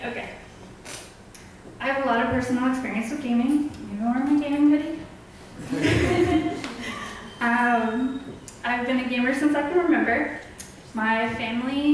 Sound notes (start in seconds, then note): 5.6 audience laughs; 5.6 chuckles